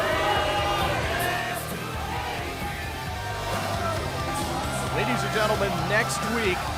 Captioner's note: crowd chatter